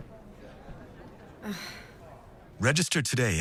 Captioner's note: sigh